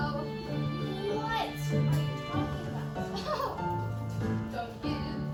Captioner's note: edgy Marilyn Monroe laughs mockingly